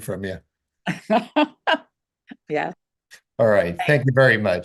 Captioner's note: laughing